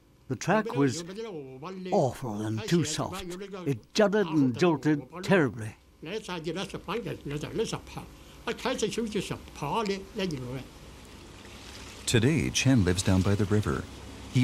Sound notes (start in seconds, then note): 6.0 speaking in foreign language